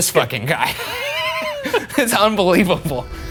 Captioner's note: both laughing